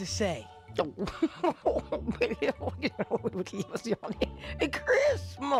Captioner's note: grandma speaking gibberish